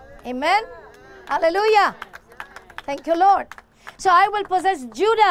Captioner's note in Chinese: 鼓掌